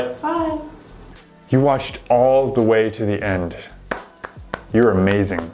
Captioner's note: claps